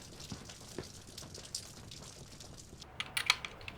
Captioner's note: gun clicking